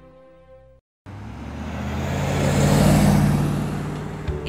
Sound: van passing

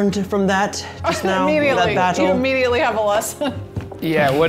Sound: laughs

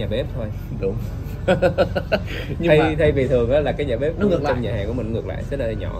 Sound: laughters

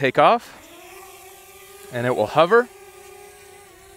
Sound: drone humming

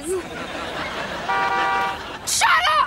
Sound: horn blowing

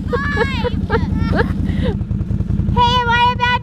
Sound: laughing

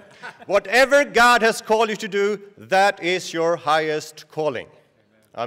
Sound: laughter

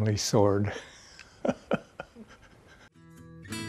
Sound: laughter

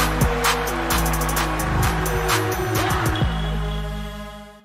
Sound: crowd cheering

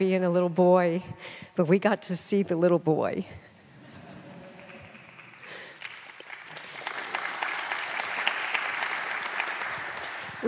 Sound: laughter/Applause

